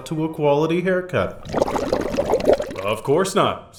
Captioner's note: bubbling